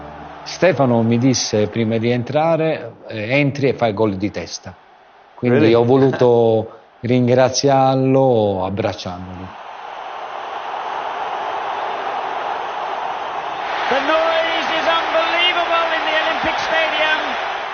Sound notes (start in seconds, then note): 10.5 crowd cheering